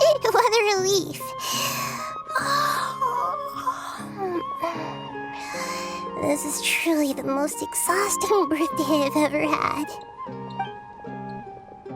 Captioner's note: yawn